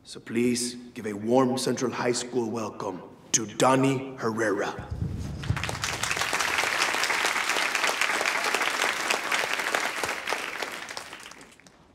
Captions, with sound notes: So please give a warm Central High School welcome to Donny Herrera. (students applauding)